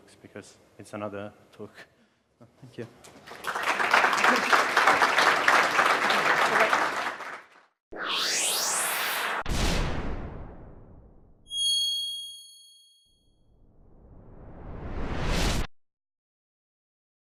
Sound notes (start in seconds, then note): 3.2 audience applauds; 8.0 air whooshing; 9.4 thuds loudly; 11.5 metallic screeching; 13.5 low rumbling